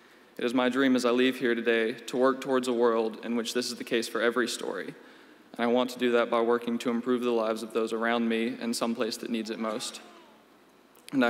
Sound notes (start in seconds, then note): none